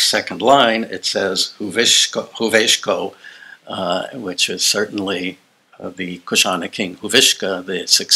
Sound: non-english

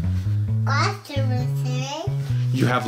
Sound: mumbles

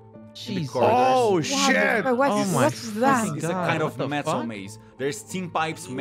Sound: comotion noises

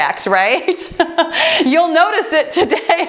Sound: laughs

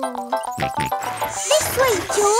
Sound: george snorts

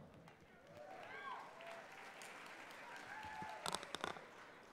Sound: applause and cheering

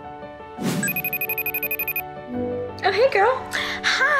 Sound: lighthearted music; cellphone ringing

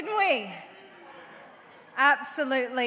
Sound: audience murmurs

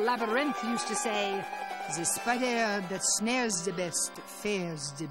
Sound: French accent

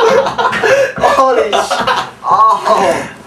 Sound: laughter; groans

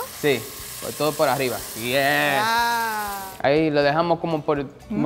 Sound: speaking in foreign language

